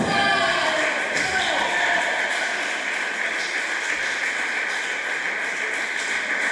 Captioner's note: applause